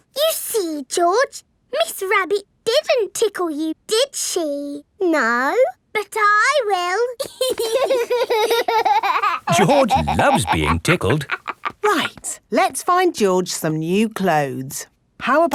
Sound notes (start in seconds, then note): 7.2 laughing